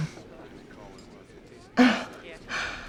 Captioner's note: chuckles